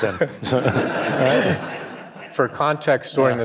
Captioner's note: audience laughing